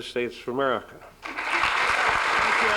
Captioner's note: applause